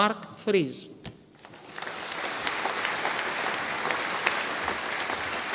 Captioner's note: audience applauding